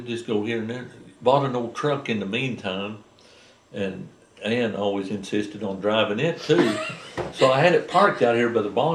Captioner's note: laughter